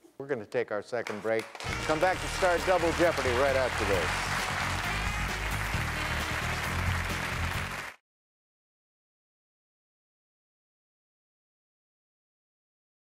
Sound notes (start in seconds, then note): 4.2 audience clapping; 4.2 jazz music